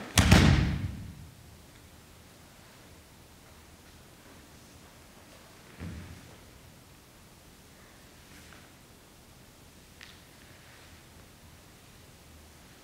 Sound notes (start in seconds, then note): 0.1 all dancers stomp one foot on the floor; 3.6 silence – environmental sound